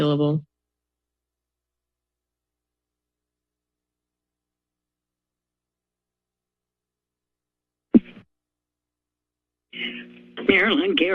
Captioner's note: silence